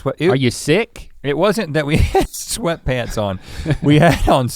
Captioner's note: chuckles